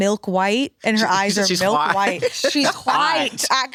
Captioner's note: laughs